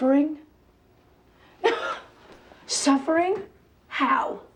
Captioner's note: laughs